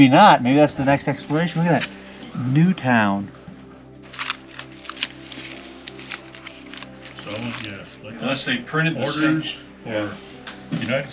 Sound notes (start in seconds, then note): 4.0 paper crunching